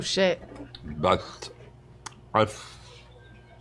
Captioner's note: slurring